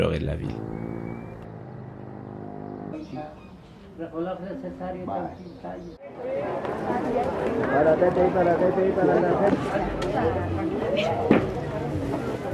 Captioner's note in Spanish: Sonidos de mercado